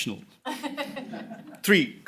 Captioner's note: laughter